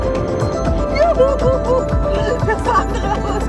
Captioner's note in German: jubelt